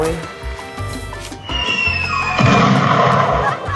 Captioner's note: cartoon falling sound